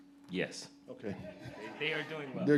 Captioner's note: audience laughs